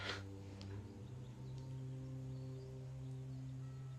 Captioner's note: नाक से की जाने वाली आवाज़